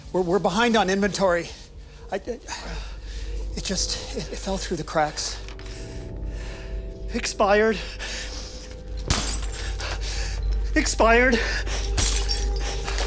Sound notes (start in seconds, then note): 1.5 stammers; 9.0 bottle shatters